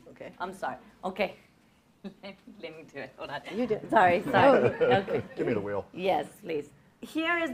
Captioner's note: laughing